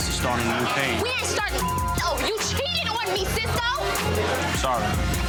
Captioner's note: beep